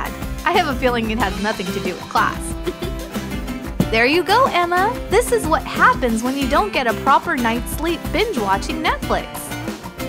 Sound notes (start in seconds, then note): 2.6 chuckle